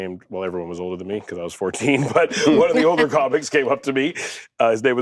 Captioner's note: laughs